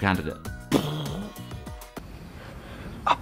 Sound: makes explosion sound

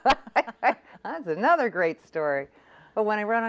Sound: laughs

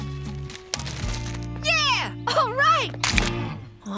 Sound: squishing

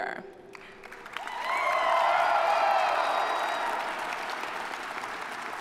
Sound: audience applauding

